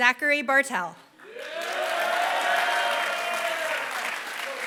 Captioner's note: applause